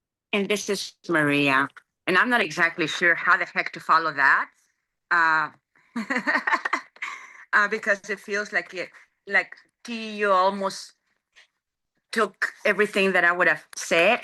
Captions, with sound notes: >> And this is Maria. And I'm not exactly sure how the heck to follow that, [laughs] because it just feels like it you -- like T, you almost took everything that I would have said.